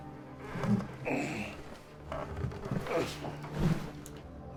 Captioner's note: grunting